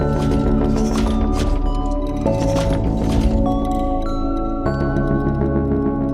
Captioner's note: mechanical stomps